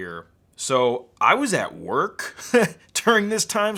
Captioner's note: laughs